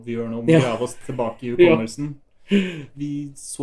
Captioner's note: laughs